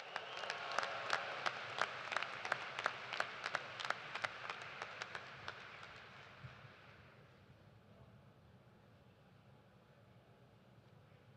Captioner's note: cheers and applause